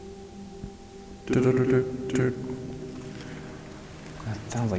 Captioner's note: imitating more beeps